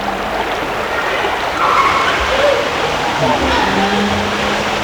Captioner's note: running water continues; children yelling